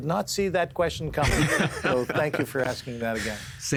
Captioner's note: laughing